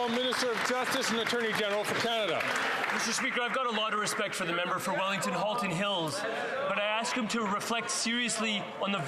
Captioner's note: some Applause